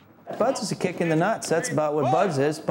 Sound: voiceover

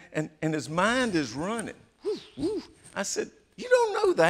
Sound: mimics swishing

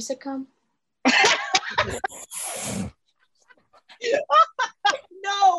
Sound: laughter

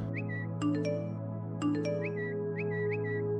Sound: whistles

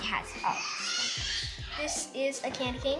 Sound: baby noises

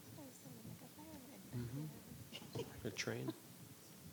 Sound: faint talks

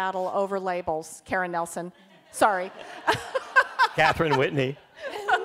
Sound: laughs

